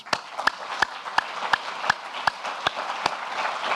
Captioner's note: applauding